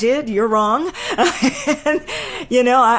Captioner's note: laughing